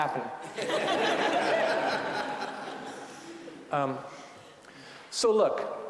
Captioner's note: audience laughing